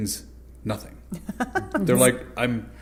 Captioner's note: laughter